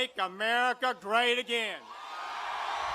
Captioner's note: cheering and applause